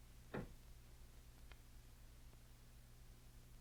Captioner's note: door closes